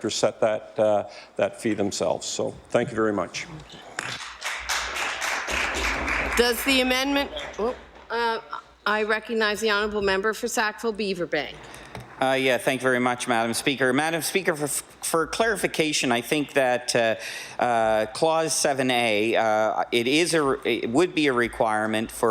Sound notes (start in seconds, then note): 6.8 some Applause